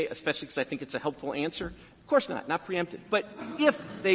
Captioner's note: laughter